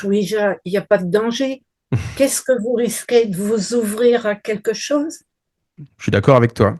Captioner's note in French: rires